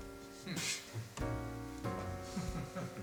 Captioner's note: laughing